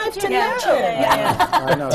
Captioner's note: laughter